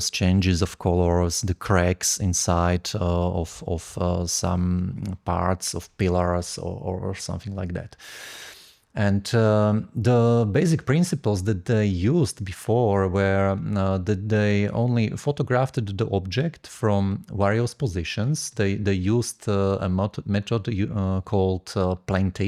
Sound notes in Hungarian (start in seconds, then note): none